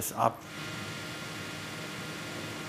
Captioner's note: whirring